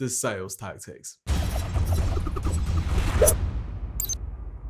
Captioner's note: logo whooshing